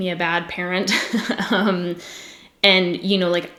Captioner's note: giggles